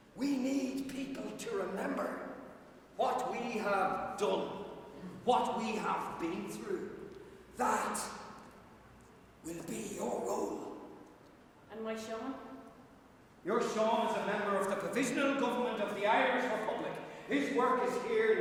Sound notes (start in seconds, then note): none